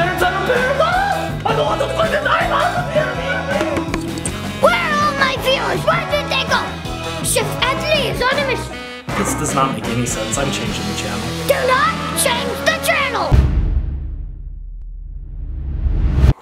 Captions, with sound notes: - Cooks the parents? I'm a parent. Ah! I don't want to get cooked either. (Dad splutters incoherently) (tapping camera) - Where are all my viewers? Where did they go? Chef Adley is on a mission. - This does not make any sense. I'm changing the channel. - Do not change the channel. (drum beating)